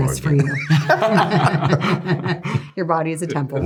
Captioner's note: all laughing